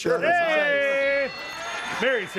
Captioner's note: bell rings